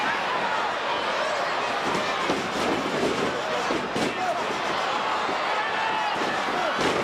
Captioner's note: crowd chattering; stage clattering